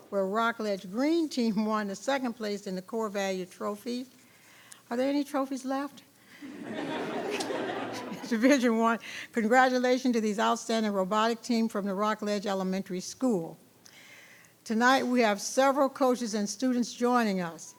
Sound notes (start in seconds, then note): 6.4 people laughing